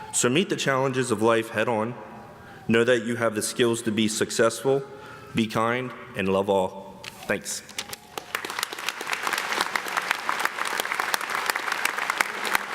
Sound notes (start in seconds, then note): 7.7 everyone clapping